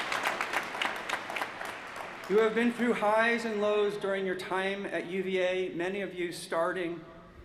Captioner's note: applause